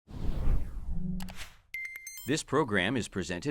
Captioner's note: whoosh and click